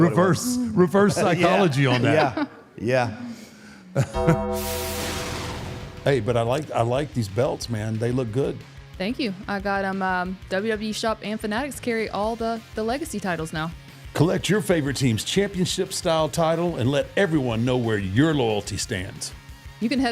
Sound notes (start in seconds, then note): 4.1 bell rings